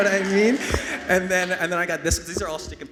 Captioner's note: everyone laughing